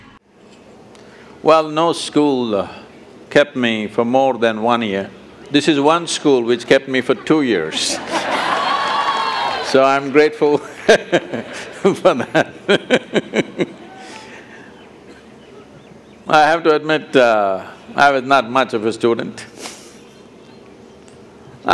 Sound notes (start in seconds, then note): 10.6 laughter; 13.7 laughs